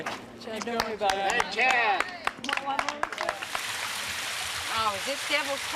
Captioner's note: cheers from spectators